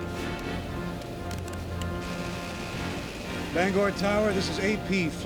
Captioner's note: Static